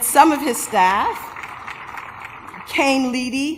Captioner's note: applause